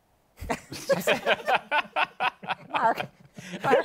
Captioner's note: laughter